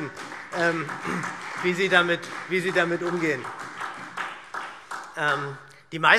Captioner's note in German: Beifall SPD